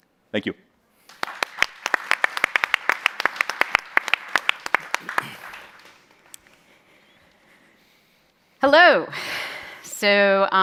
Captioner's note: applause